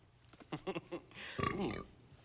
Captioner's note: burp